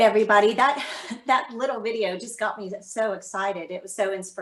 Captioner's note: chuckles